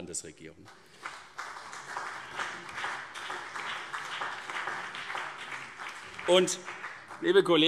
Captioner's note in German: Beifall CDU und BÜNDNIS 90/DIE GRÜNEN